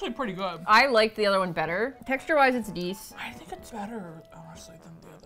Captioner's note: with hesitation